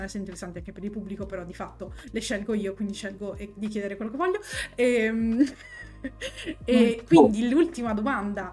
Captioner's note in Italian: risate